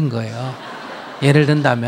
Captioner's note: audience laughter